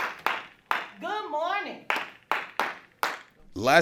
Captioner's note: teacher and students clap